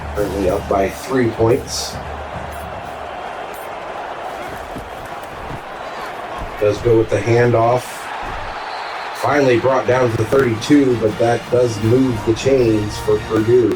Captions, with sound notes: Currently up by three points. [Crowd Noises] Does go with the handoff. [Crowd Noises] Finally brought down to the 32 but that does move the chains for Purdue.